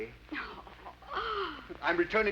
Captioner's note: Becky chuckles